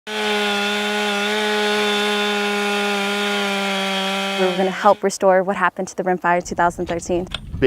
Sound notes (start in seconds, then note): 0.0 chainsaw buzzing